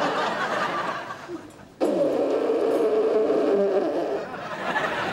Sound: blowing nose

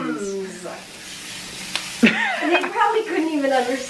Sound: laughter

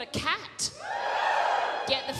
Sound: audience cheers

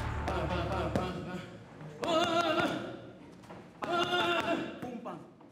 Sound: gruñe

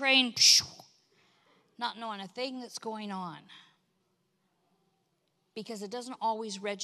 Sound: imitates train zooming

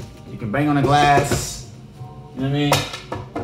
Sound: bangs glass

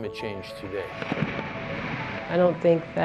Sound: ice loudly cracking and crashing

